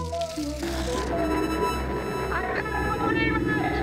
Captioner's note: portal opens and hums